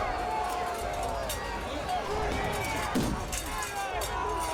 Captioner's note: crowd yelling, chanting; metal clanging